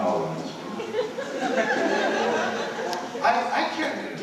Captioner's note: laughter